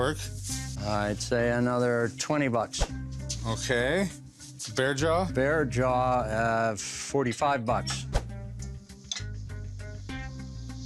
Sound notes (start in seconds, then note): none